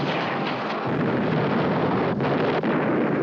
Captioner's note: explosions continue